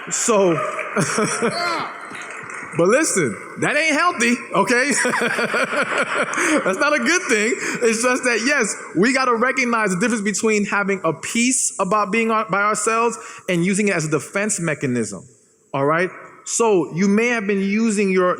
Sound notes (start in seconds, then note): 4.6 laughs